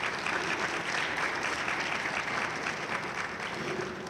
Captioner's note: audience applauding enthusiastically